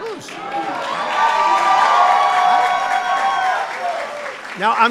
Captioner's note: applause